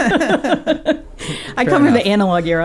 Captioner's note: laughing